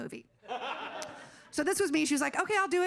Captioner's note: audience laughing